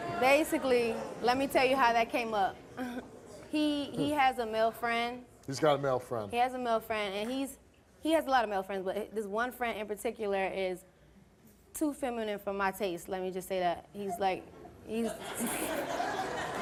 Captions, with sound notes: basically, let me tell you how that came up. He has a male friend. - He's got a male friend? - He has a male friend and he's, he has a lot of male friends but this one friend in particular is too feminine for my taste, let me just say that. He's like (laughs).